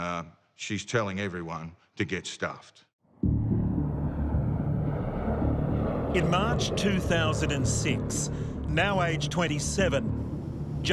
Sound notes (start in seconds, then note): 3.2 dramatic music; 3.2 plane engine roaring